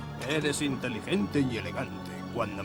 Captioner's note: none